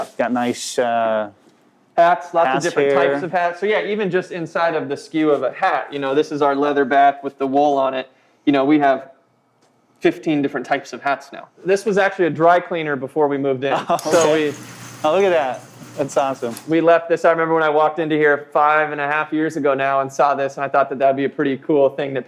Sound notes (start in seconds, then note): 13.7 laughs